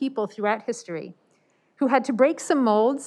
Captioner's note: none